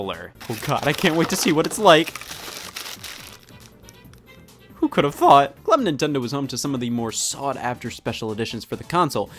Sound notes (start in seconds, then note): 2.1 crinkly plastic